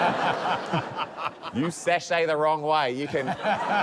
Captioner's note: laughter